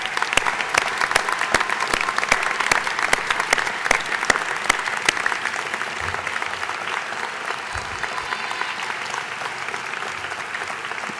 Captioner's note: applause